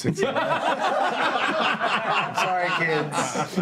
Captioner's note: laughter